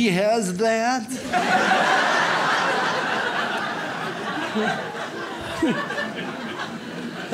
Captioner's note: audience laughs